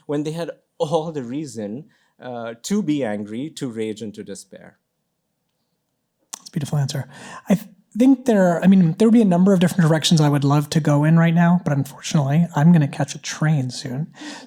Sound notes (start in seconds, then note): none